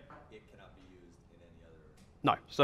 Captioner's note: voiceover